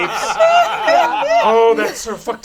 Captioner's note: all laugh